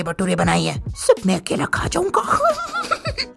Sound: evil laugh

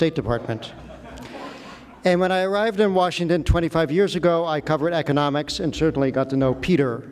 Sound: laughter

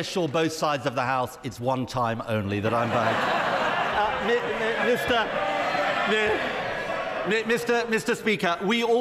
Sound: laughter

